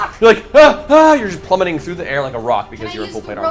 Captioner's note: worried noise